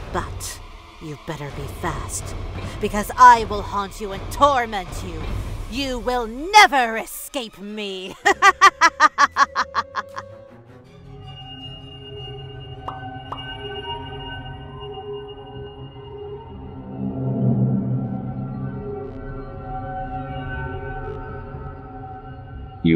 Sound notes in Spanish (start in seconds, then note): 8.1 Risa malvada